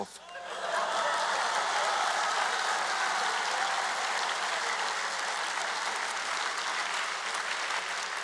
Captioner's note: applause